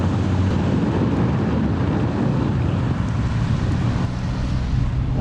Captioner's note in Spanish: ruido de kombi, brum brum brum¡!